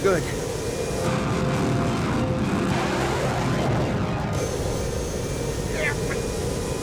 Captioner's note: aircraft whooshing; intense, dramatic music